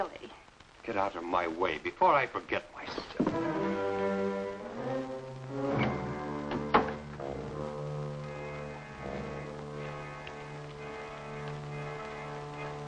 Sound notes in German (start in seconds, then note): 6.4 Tür schlägt zu; 8.3 spannende Musik spielt